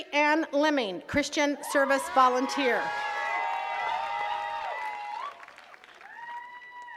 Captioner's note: attendees cheers and claps